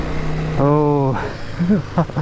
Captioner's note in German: lacht